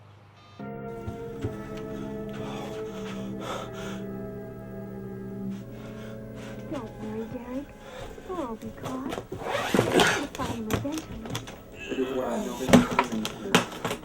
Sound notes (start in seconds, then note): 1.8 breathing nervously